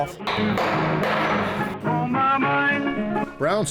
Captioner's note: hammering